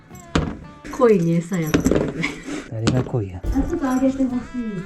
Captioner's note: laughs